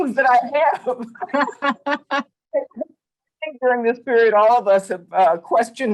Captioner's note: laughter